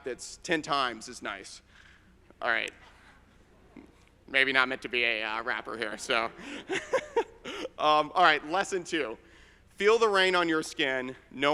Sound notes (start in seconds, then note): 6.2 laughs